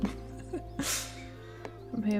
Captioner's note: laughs